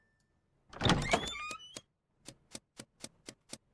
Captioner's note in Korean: 문이 끼익하고 열리는 소리